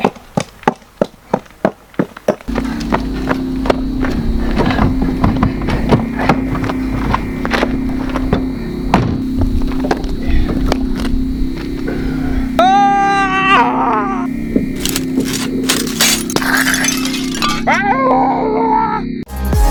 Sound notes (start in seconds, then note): 0.0 clunky Footsteps; 2.5 fast foot steps/panicked noises; 14.8 glass Shatters!